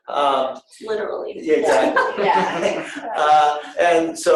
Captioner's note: laughing